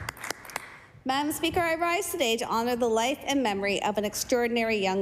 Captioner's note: applause